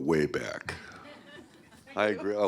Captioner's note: laughs